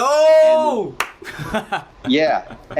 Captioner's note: laughs